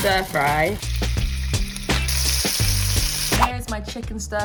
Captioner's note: chicken sizzling on pan; upbeat music